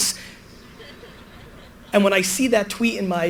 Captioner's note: audience laughter